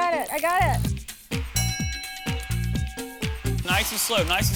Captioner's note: bell dings